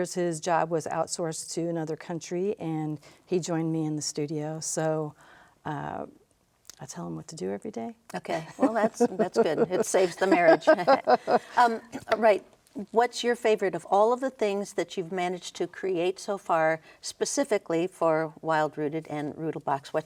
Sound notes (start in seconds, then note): 11.2 laughs